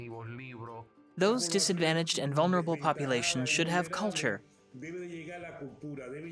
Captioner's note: speaks foreign language